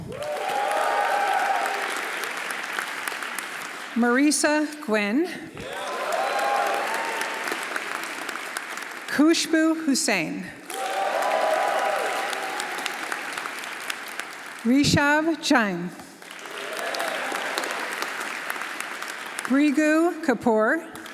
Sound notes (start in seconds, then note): 0.0 audience cheering; 0.0 audience applauding; 5.6 audience cheering; 10.6 audience applauding; 10.6 audience cheering; 16.1 audience applauding; 16.3 audience cheering